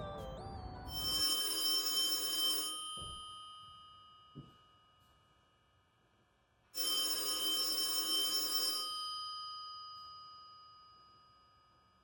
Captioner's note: phone ringing